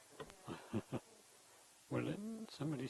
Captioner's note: laughing